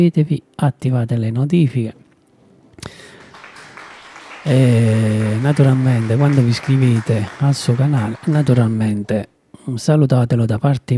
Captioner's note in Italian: Applauso